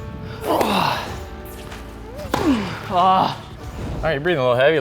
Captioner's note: grunting